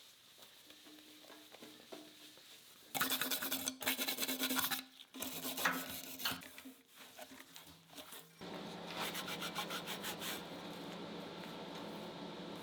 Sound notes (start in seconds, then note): 3.1 brush scrubbing